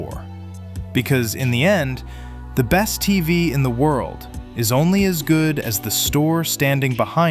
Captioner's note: thoughtful